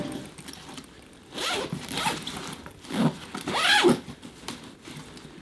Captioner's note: unzipping; rustling and unpacking